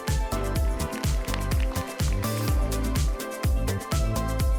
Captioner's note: upbeat music; audience applauds